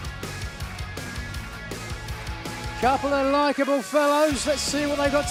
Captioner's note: cheers and applause